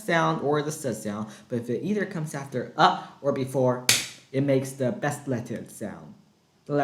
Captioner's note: clap